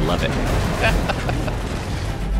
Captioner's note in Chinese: 笑聲